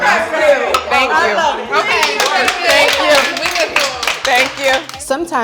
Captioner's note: applause